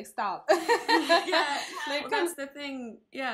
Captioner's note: laugh